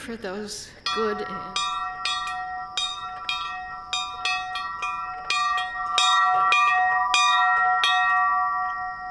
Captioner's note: bell ringing